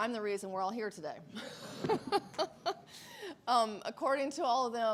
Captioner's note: laughs